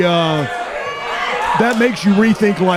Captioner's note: crowd shouting